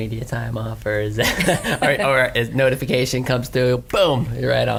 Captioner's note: laughs